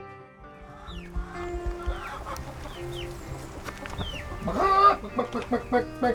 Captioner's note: chickens clucking; mimicking chickens